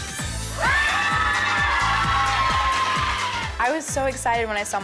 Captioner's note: crowd exclaims